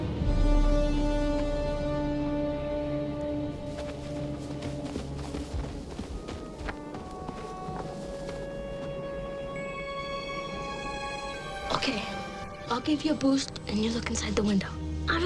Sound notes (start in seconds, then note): 0.3 foreboding music peaks; 3.5 footsteps padding